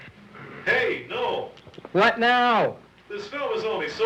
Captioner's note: shouting